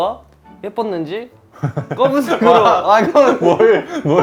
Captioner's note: can only laugh